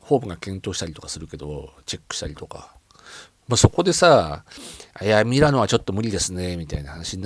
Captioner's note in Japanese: 鼻息